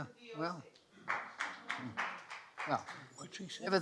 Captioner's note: soft clapping